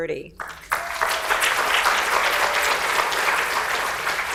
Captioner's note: audience applauds